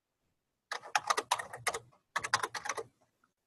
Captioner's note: typing